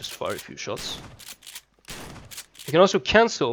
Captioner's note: fires a few shots